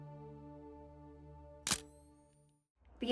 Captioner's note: camera shutter click